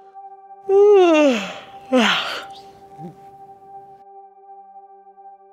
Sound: yawning

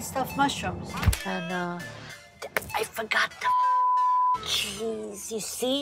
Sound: claps hands; beep

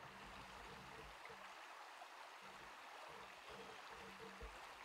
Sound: water splashing

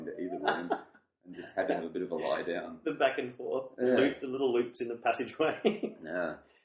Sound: laughs

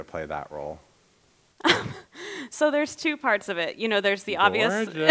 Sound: laughing; laughs

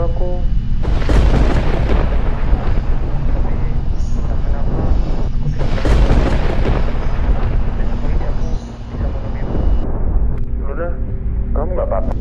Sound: the phone still sounds

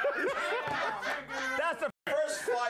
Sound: laughter

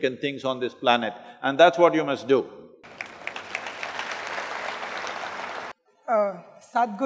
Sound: applause

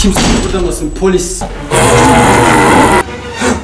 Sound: autistic screeching

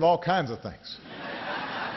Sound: laughter

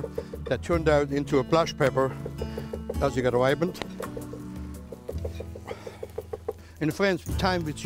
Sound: chopping

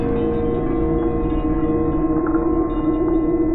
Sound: none

